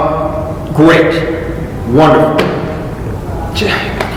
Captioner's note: sarcasm